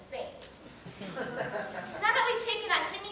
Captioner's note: audience laughs